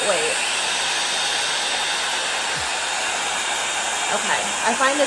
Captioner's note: dryer whirring